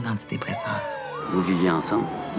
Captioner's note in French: sirènes